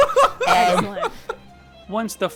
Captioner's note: laughing